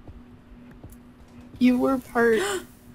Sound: cat gasps

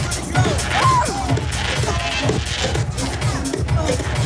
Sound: yelling

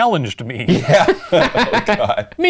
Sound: laughing

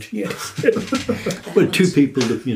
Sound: laughing

